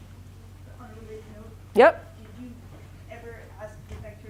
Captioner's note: woman mumbling